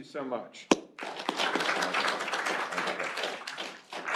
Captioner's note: applause